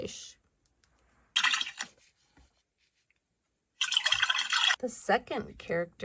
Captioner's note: water gurgles